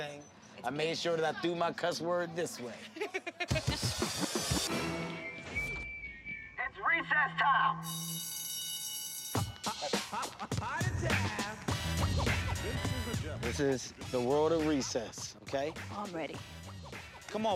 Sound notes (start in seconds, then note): 2.8 Liza laughs; 7.8 bell rings